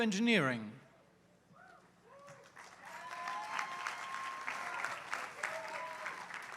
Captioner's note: applause